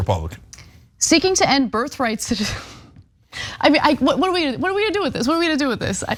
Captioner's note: laugh